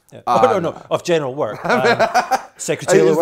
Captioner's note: laugh